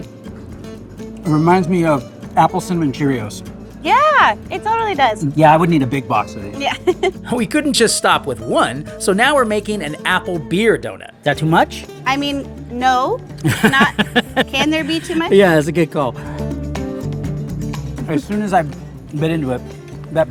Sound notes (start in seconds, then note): 13.4 laughing; 16.6 lively music